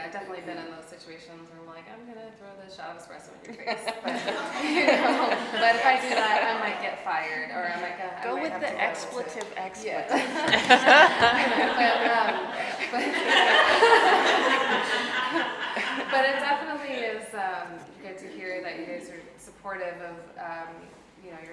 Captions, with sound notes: I've definitely been in those situations where I'm like, "I'm gonna throw this shot of espresso in your face." (laughing) But if I do that, I might get fired. - Go with the expletive expletive. (laughing) - But it definitely is good to hear that you guys are supportive of you know,